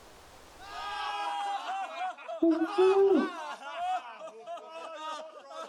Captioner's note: men laughing